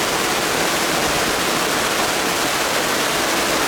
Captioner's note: rain